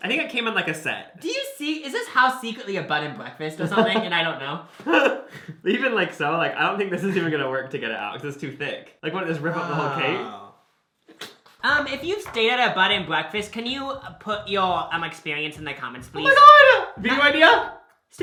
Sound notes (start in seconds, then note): 4.8 laughs; 10.8 blows raspberry